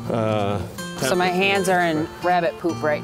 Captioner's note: softly talks off mic